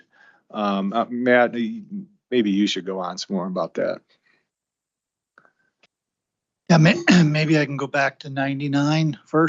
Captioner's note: clears throat